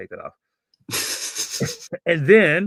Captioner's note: laughs